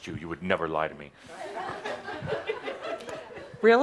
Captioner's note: some laughter